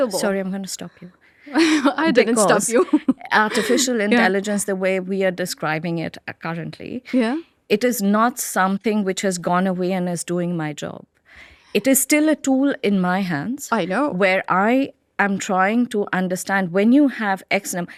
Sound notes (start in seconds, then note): 2.8 laughs